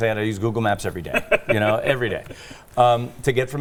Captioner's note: chuckling